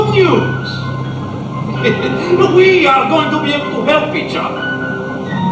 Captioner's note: laughs